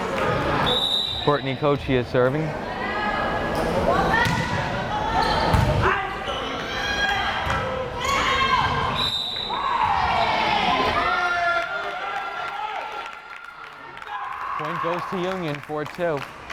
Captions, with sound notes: (whistle blares) Courtney Coccia serving. (whistle blares) (crowd cheering) Point goes to Union, 4-2.